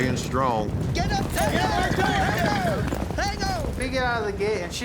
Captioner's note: cowboys shouting